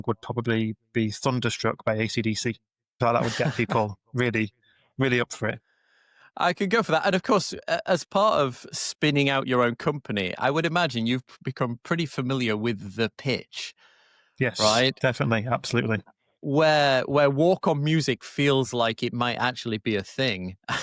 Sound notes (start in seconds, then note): 3.1 chuckles; 20.7 chuckle